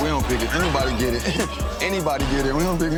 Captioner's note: laughs